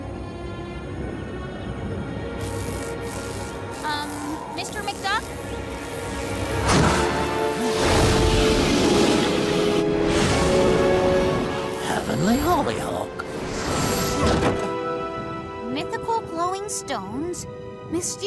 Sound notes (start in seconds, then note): 2.7 electricity buzzing